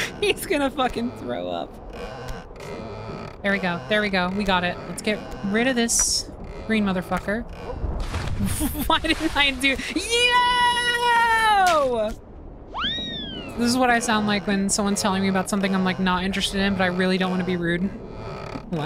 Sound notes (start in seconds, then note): 8.4 laughing; 12.6 cartoonish Throw